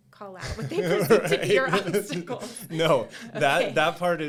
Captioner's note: chuckling